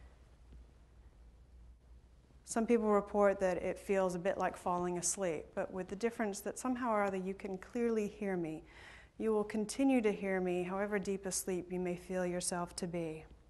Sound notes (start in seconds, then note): none